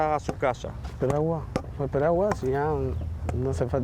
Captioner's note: speaking spanish